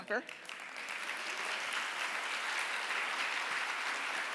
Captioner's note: audience applauds